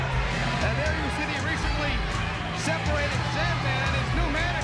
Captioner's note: crowd cheering